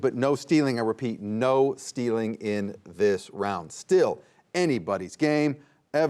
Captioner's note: none